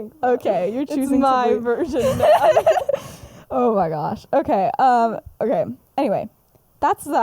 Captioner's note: laughs